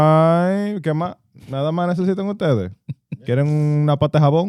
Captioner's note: speaking In Foreign Language